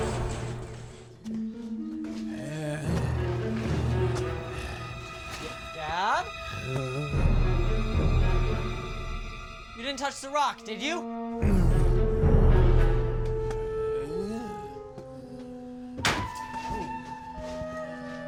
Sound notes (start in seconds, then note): 11.4 zombie walter groaning; 16.0 door bangs